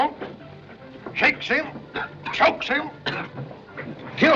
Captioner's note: coughing